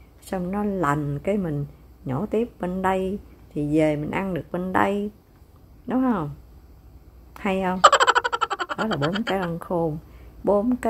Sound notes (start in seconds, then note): 7.8 haha